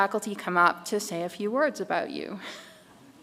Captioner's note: chuckles